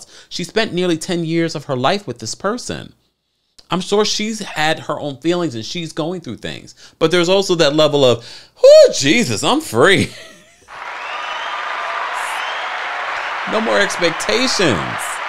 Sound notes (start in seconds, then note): 10.6 audience cheering